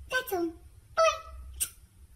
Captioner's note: smooch